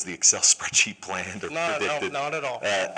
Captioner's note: laughter